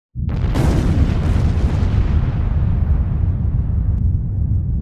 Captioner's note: thunder rumbling